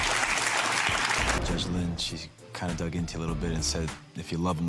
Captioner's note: audience cheers and claps